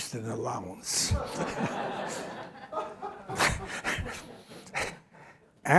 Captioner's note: laughter